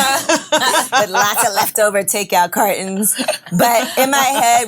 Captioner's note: ladies laughing